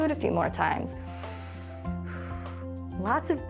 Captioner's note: inhales and exhales